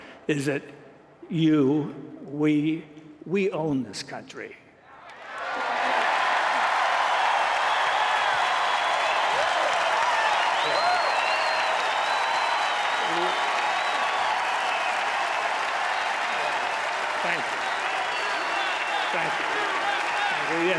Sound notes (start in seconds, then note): 5.1 applause